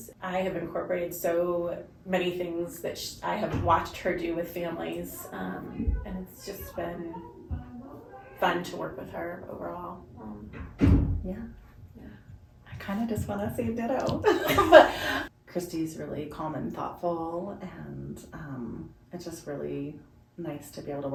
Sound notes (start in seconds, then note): 14.2 both laugh